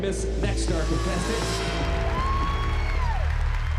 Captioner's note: applause and cheering